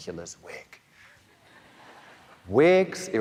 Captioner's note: audience laughing